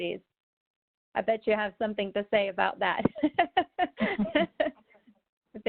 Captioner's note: laughs